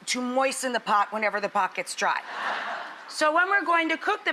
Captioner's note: audience laughs